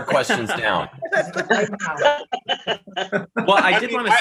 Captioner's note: laughing